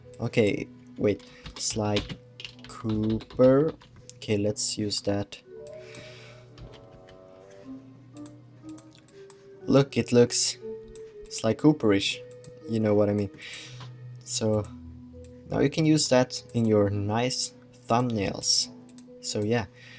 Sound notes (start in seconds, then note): 5.4 sigh